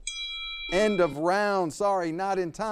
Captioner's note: bell rings